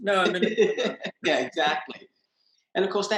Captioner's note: laughs